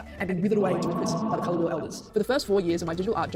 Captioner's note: echo effect